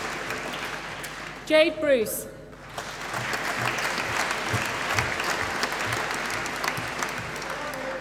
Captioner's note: applause